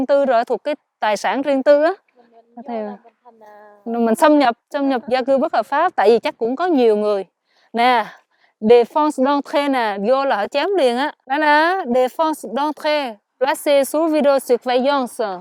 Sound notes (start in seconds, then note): 8.4 French; 11.9 French